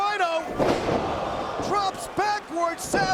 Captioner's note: spectators exclaiming